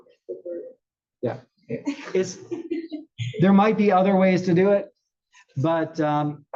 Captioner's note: laugh